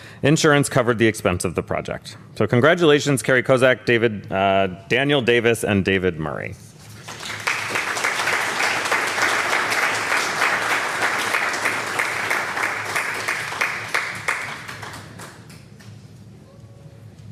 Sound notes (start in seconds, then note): 6.8 applause